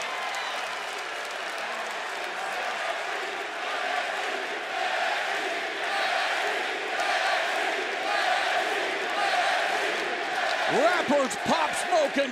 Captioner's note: crowd cheering